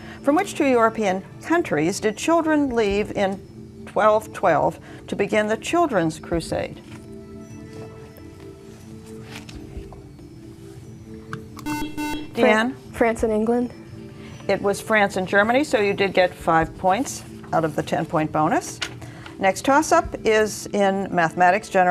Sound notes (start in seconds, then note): 7.8 whispering